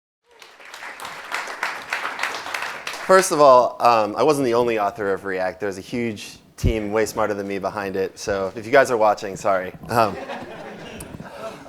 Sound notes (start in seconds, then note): 0.2 clapping; 9.8 laughing